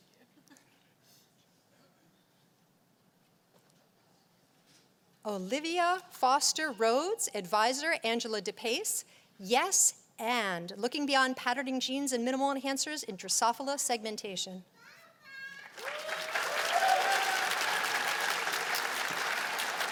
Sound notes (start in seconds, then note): 15.5 cheers and applause